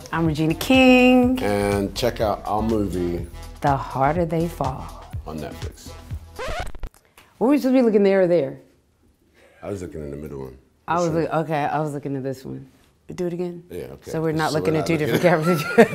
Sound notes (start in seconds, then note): 6.3 record scratching; 14.8 laughing